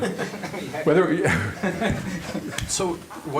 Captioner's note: laughter